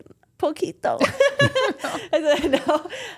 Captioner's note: all laughing